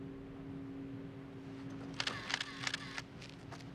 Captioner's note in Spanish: clicking